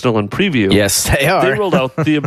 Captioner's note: laughs